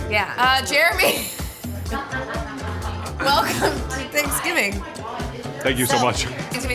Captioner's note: laughs